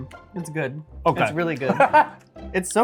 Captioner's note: laughs